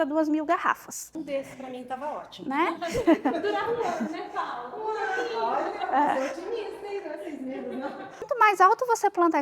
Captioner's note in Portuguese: risadas